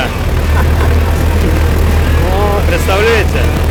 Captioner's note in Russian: смех